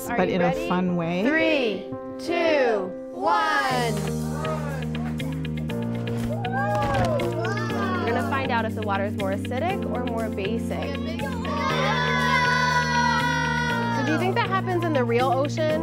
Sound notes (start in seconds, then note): 4.0 playful music; 6.2 cheering; 10.8 children shouting